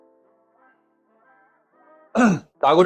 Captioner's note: cough